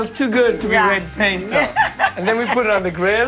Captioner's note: laughs